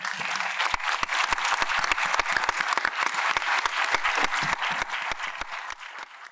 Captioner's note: audience applauds